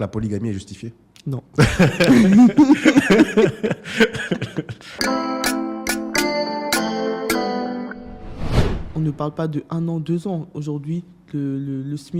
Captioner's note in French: rires